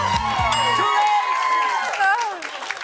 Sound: cheers and applause

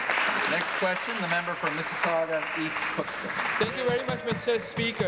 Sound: applause

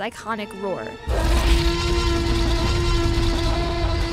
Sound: roaring

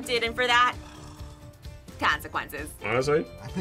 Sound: sighs

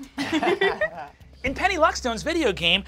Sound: laughing

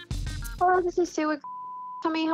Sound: beeping

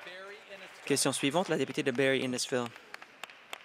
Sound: applause

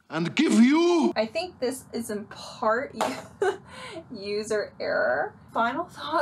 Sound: chuckles

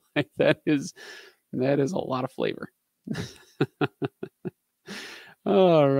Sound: laughing

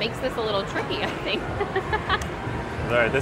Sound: laughs

